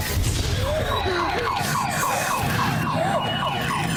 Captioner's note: siren wailing